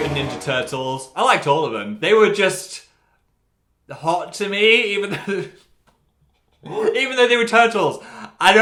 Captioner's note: laughs